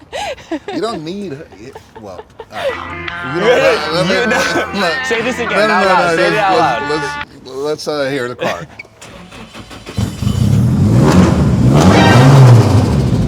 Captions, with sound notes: You don't need, well-- Let's hear the car. [ENGINE STARTING] [ENGINE REVVING]